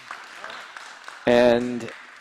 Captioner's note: applause